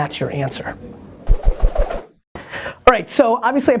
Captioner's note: quick swishing